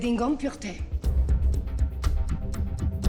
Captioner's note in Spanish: Hablan en otro idioma